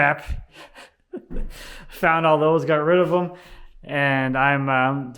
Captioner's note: laughs